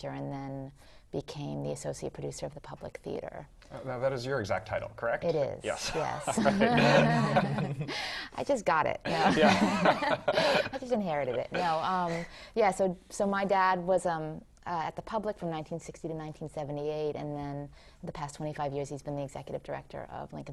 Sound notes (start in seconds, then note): 5.7 laugh